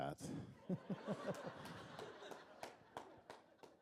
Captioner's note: laughter